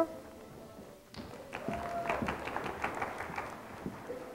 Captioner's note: audience clapping